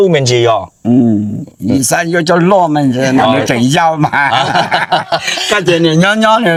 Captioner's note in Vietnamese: tiếng cười